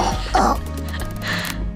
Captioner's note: grunting